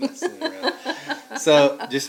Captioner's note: laughing